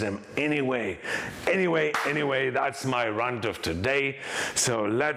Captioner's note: clapping